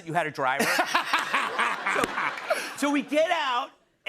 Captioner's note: laughter